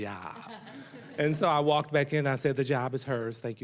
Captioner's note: audience laughing